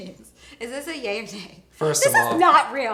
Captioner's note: laughs